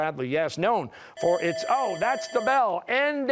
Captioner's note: bell ringing